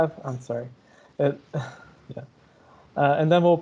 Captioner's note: chuckles